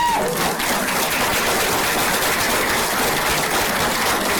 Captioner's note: applause